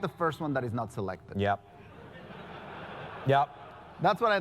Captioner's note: laugh